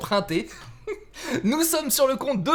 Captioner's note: laught